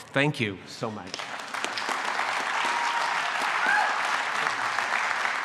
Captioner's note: applause